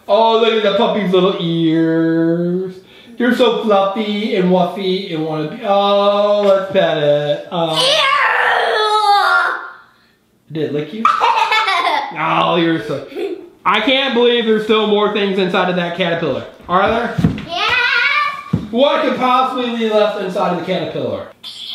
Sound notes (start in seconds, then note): 7.7 girl growls; 11.0 girl laughs